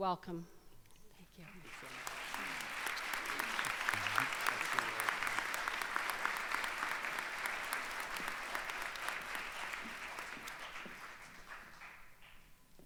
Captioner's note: applause